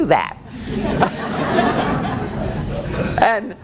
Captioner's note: laughing